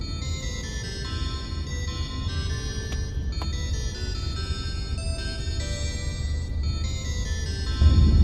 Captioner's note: lots of traffic jam